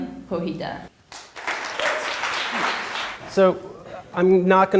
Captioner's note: audience applauds